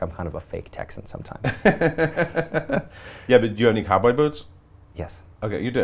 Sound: laughs

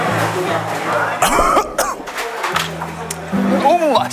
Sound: coughs

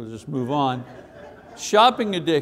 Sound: audience laughs

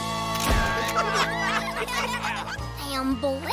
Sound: laughing

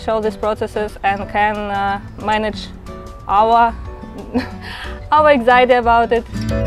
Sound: laughs

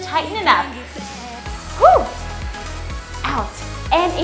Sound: screams

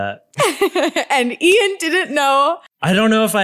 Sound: laughs

